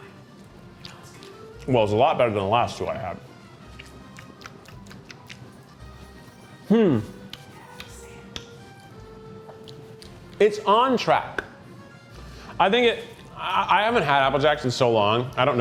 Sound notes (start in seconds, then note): 3.7 lips smacking